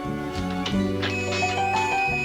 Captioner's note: shop bell jingles